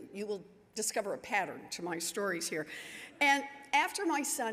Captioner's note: none